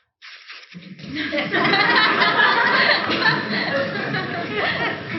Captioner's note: audience laughing